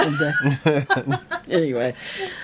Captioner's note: laughing